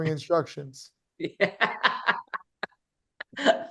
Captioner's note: laughs